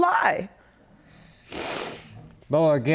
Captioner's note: sniffling